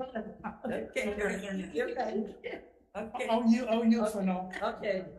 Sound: members chattering

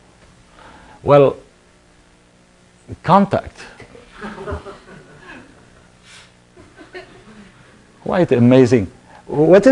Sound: laughter

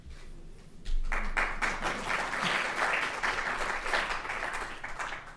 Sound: applause

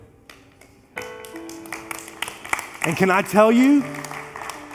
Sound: congregation applauds

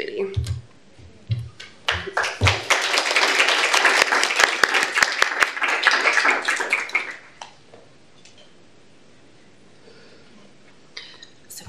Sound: applause

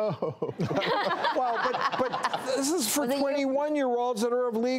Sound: doctors and audience laughs

